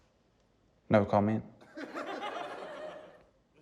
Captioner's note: laughter